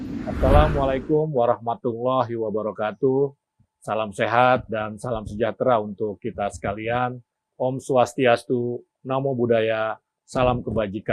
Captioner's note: non-english speech